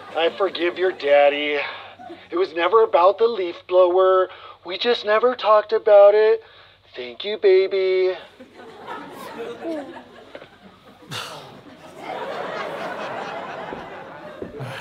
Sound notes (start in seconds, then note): 8.2 audience laughter; 11.0 scoffs; 12.2 audience laughter